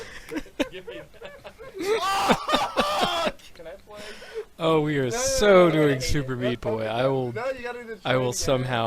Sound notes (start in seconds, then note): 1.2 is still laughing